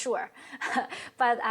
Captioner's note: chuckles